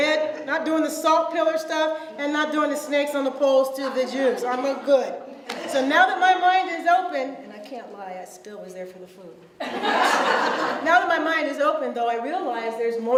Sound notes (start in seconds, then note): 5.3 audience laughs; 7.1 low voice; 9.6 audience laughs; 10.3 normal voice